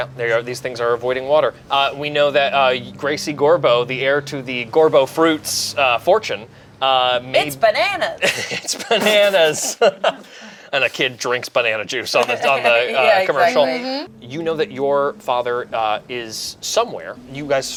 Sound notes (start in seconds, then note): 9.7 laughs